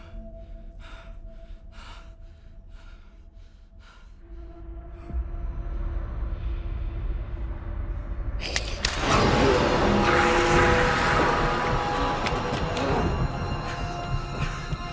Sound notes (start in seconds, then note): 5.5 ominous music; 8.4 neck snaps; 9.0 demon screams; 9.0 demon growls; 9.8 tense frightening music